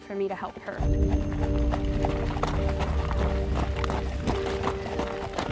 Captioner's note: running footsteps